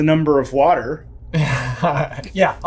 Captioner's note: laughing